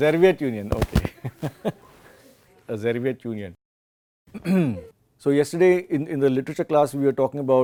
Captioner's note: laughs; coughs